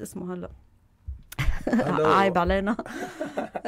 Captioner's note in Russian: смеется